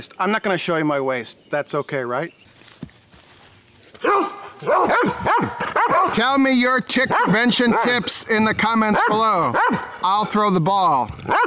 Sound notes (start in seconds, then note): 4.0 dogs barking